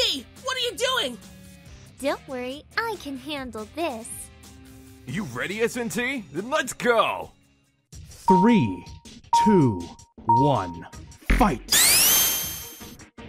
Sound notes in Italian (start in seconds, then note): 9.4 suoni da battaglia battagliosa